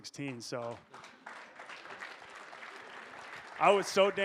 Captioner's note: audience applauding